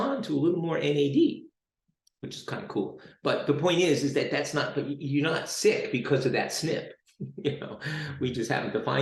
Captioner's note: chuckles